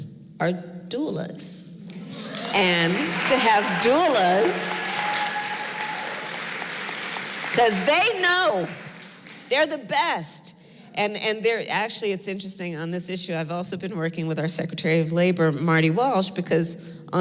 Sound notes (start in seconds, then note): 1.2 applause